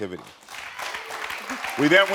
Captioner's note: audience applauding